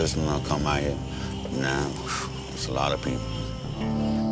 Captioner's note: exhales